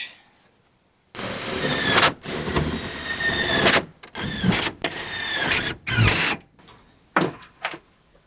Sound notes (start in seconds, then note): 1.1 drilling